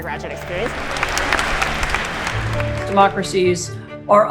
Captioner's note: students clapping